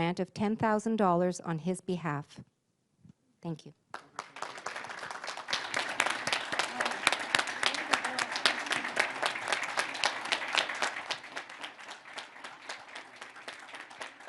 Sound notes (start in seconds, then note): 6.6 applause